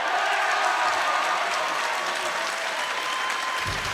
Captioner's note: crowd cheering